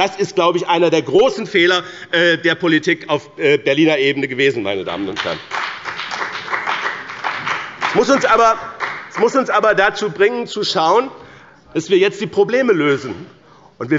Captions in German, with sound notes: Das war einer der großen Fehler der Politik auf Berliner Ebene. (Beifall bei dem BÜNDNIS 90/ DIE GRÜNEN) Das muss uns aber dazu bringen, jetzt die Probleme lösen.